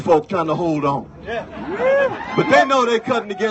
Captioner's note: cheers